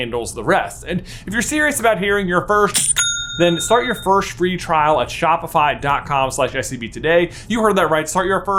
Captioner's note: cha-ching!